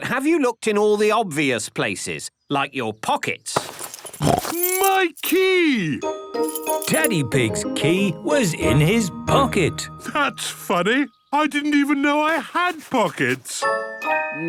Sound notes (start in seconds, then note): 4.2 snorts